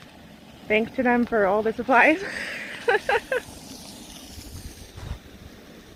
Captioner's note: laughs